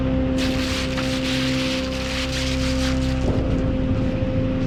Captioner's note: plastic bag rustles